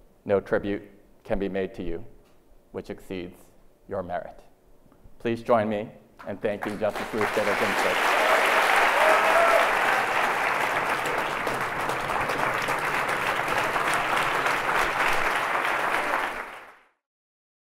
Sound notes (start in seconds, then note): 8.4 audience applauds